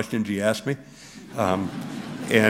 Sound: laughter

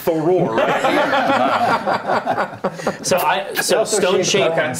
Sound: laughing

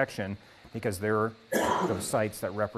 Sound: cough

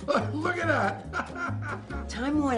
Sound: laughs

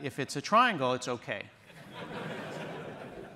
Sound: laughter

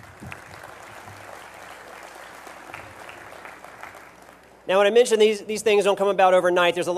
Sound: applause

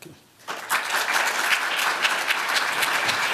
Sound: applause

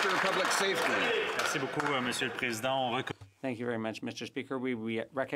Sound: applause

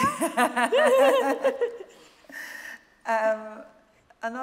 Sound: laughs

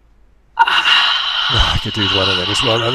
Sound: sighs

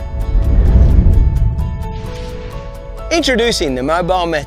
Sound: whooshing

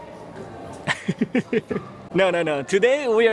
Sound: laughs

